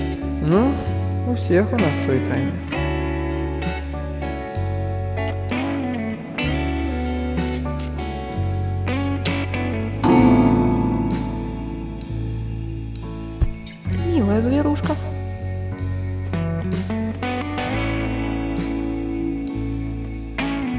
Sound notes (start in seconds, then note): 6.4 a kiss; 10.1 the rumble of the piano keys